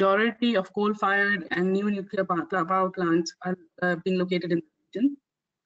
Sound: audio static

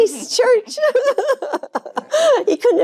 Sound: Jane laughing

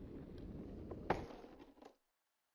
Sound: pop

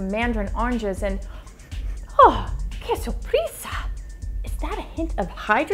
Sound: speaks in foreign language

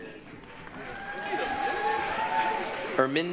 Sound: applause, cheering

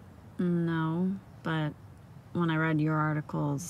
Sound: none

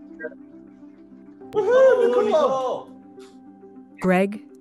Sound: cheering

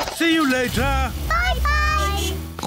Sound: horn beeps; oinks

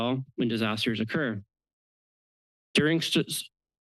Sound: pause

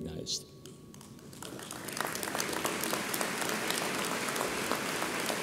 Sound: audience applauds

